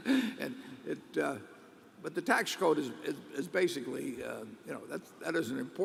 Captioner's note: laughs